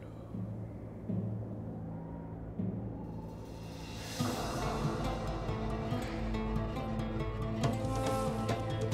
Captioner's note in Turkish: Rüzgâr sesi